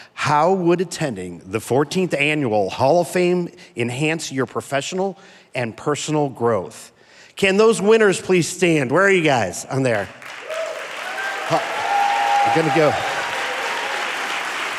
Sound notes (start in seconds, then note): 10.0 audience applauding; 10.2 audience cheering